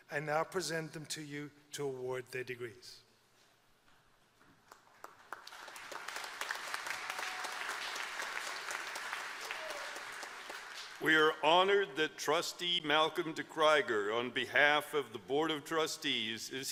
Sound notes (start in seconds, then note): 4.6 applause